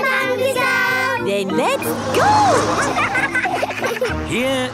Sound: laughing

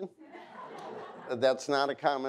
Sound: audience laughs

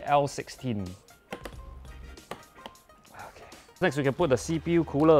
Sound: RAM clicks

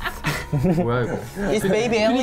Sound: laughs; speaks in foreign language

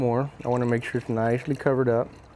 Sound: water sloshing

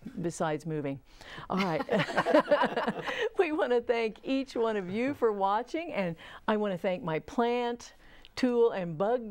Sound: laughing

